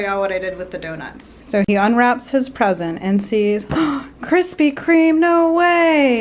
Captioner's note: gasp